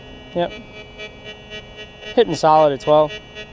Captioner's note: detector beeps